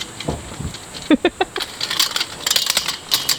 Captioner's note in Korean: 웃음